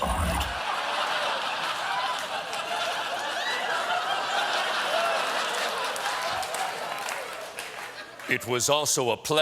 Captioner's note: laughter; applause